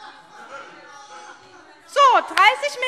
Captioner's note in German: Zurufe